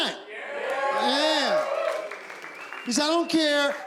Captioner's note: cheering